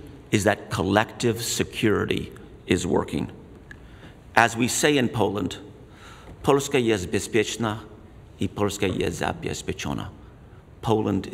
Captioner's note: speaks in Polish